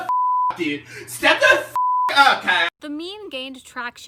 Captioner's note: beep